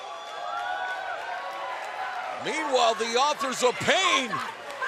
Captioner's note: cheers and applause